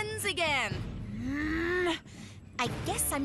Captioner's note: Courtney Growling